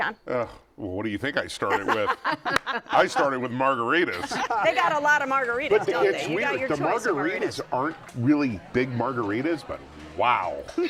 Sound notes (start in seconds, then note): 1.6 laughter